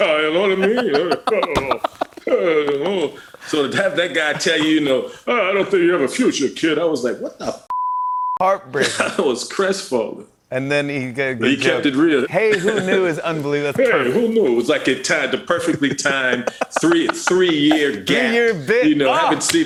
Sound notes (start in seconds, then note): 2.9 normal voice